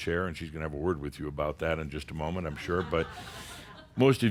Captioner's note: a few chuckles